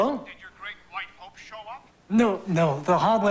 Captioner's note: on telephone